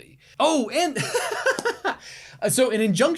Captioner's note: laughs